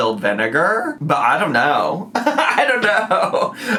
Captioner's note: laughs